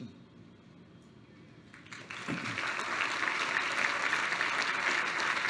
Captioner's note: applause